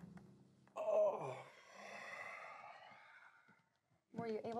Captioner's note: grunts